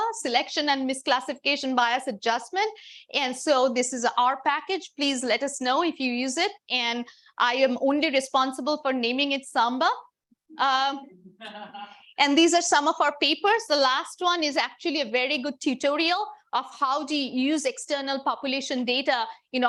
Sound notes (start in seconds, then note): 11.0 audience laughing